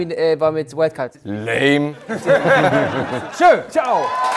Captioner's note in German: Lachen